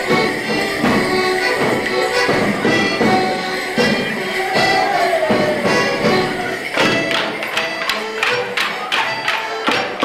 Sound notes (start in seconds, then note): 4.7 hollering; 6.7 sticks clacking